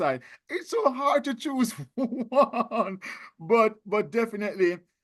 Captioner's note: laughing